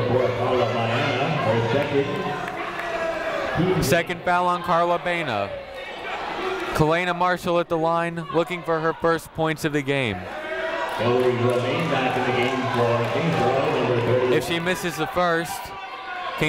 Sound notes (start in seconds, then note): 2.9 people shouting in the crowd; 11.0 muffled voice speaking over speaker